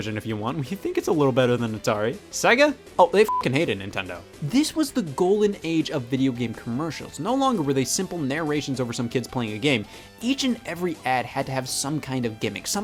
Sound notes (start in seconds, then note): 3.2 beep